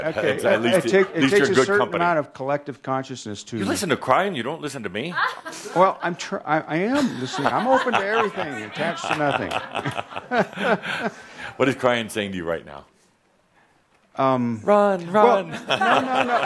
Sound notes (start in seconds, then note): 9.8 they laugh; 15.4 laughter